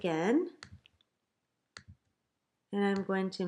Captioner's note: clicking